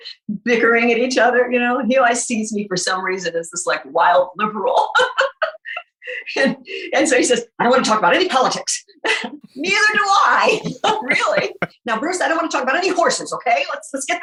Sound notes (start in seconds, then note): 4.9 laughs; 9.5 chuckles